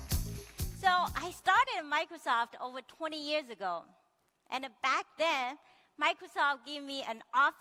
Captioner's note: applause